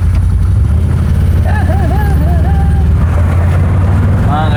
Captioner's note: humming